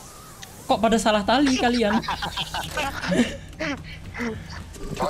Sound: laughing

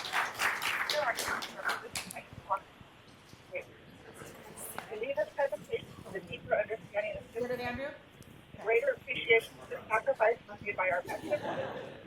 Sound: cheers and applause

